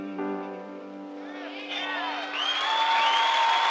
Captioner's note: crowd cheering